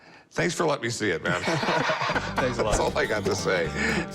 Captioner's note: laughter